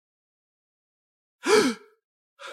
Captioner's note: gasp!